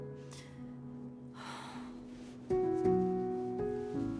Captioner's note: sighs